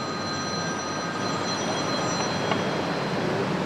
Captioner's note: phone rings